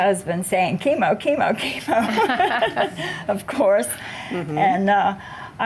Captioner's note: laughs